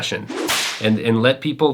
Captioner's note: rope whipping